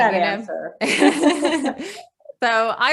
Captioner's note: chuckles happily